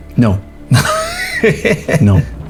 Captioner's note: laughs